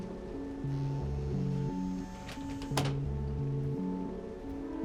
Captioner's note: door creaks